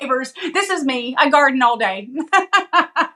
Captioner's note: laugh